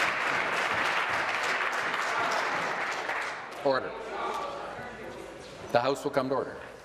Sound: applause

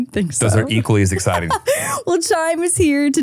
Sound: laughing

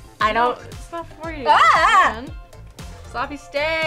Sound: yells

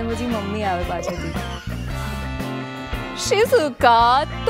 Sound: laughs

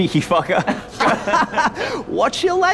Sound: laughing

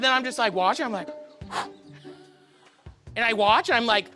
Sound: exhales

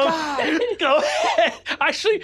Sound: laughs

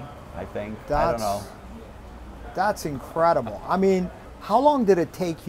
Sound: laughs

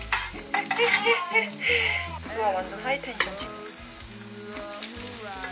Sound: she is laughing, not crying

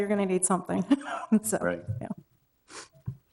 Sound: laughing

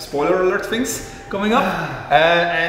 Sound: sigh

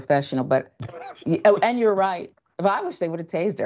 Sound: laugh

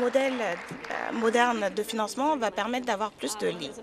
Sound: some Applause

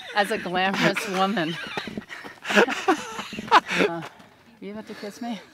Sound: Kevin laughs

